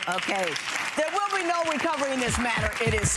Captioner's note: clapping